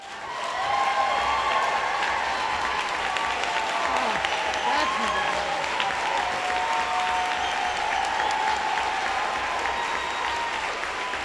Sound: applause

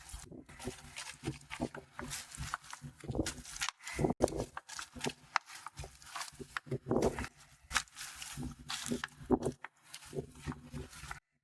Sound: the sounds of plastering with the prepared mud

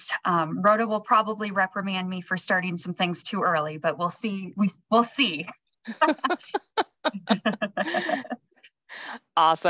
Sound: laugh

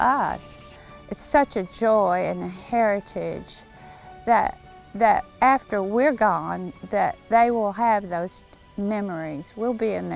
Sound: waterfall

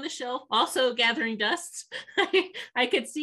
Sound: laughs

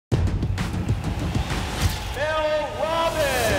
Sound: upbeat music; crowd cheers

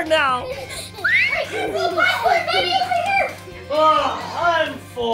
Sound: Adley screaming

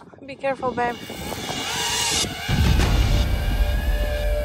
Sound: drone whirring

